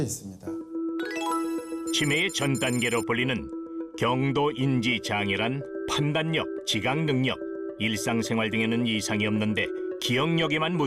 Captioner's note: voiceover